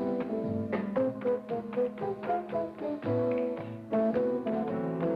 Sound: fingers snap

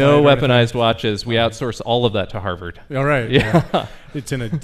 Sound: laughs

